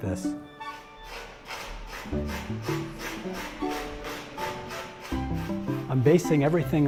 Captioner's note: sanding